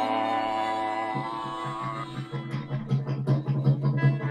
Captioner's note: engine faltering